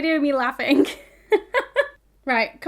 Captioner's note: laughing